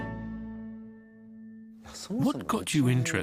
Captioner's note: speaking japanese